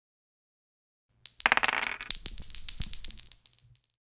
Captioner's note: dice Rolling